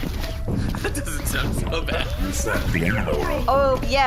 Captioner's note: laughing